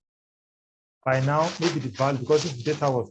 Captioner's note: distorted audio